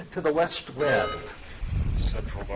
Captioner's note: buzzer dings